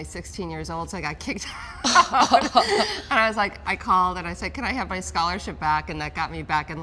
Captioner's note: laughs